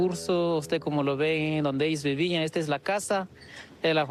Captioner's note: speaking in a non-english language